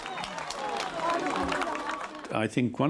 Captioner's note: crowd clapping